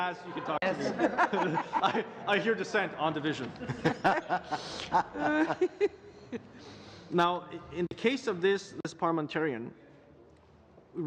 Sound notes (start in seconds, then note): 3.5 laughter